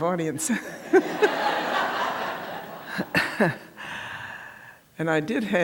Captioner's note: laughter